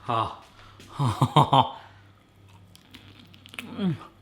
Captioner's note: chuckling